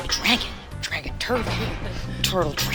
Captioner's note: metal clacking